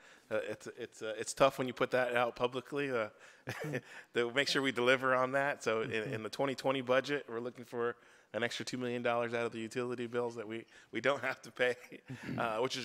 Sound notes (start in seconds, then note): 3.5 chuckles; 12.1 laughs